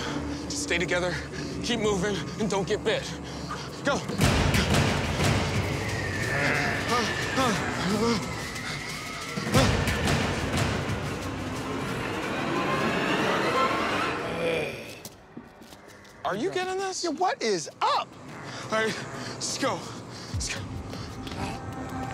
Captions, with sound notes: Just stay together, keep moving, and don't get bit. Go! (suspenseful music) (zombies snarling) (men panting) Are you getting this? - Yeah, what is up? All right, just go.